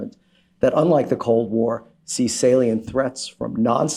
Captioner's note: none